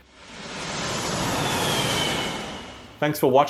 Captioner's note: engine revving